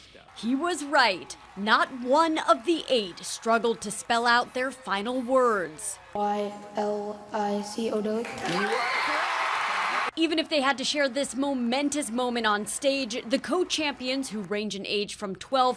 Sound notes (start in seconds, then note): 5.4 kid spelling